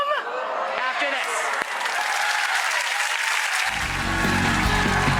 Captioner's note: audience awes; audience applauds